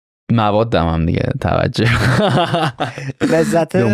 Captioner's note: laughs